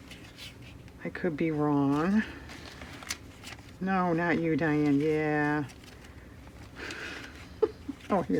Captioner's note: laughs